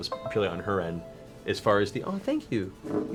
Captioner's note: Windows startup noise